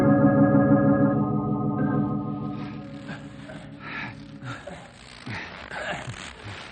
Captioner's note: snoring